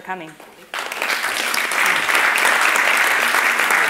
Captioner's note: clapping